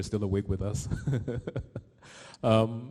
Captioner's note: laughs